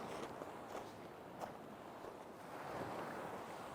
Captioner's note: footsteps